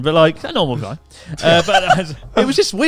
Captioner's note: laughs